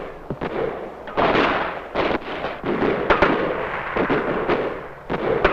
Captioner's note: explosion booming